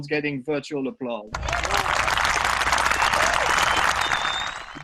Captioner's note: applause sound effect